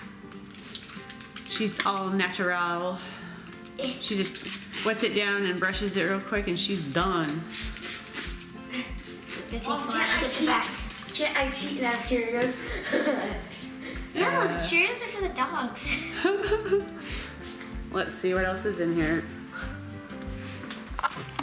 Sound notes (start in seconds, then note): 7.5 loud spritzing; 12.6 chuckles; 15.9 laughing; 15.9 laughs